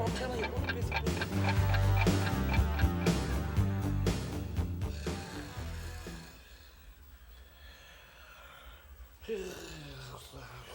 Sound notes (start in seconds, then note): 1.6 clock ticking; 1.6 rock music; 4.7 Jimmy snoring